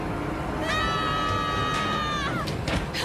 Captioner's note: all yelling